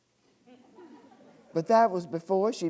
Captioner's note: audience laughing